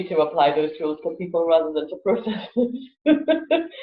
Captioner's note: laughs